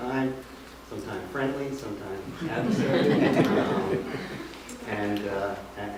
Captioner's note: laughter